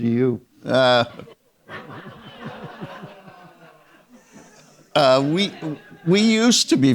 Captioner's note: audience members laughing